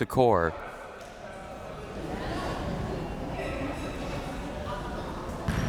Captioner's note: crowd members talking